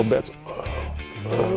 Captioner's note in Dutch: Beergeluiden